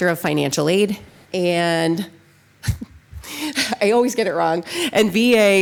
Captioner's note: laughs